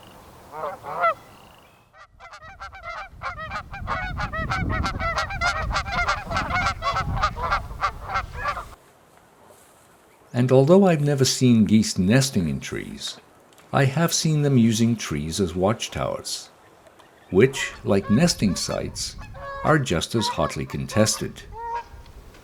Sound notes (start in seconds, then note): 1.9 geese honking